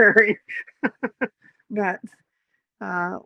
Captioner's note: laughs